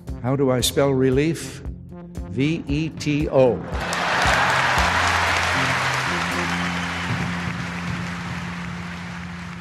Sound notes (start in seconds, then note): 3.7 crowd applauds